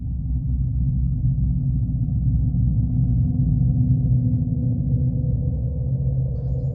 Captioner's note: eerie hollow sound